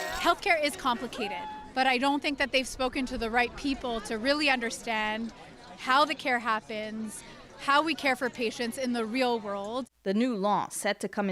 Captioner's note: chanting